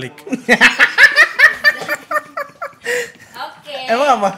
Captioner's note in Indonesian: ketawa ngakak